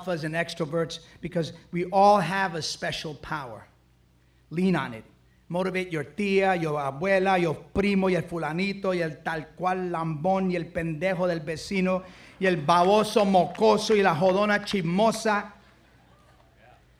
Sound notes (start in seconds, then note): 7.7 speaks foreign language; 11.1 speaks foreign language